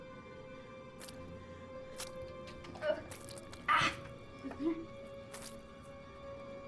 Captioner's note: eerie music; liquid squishing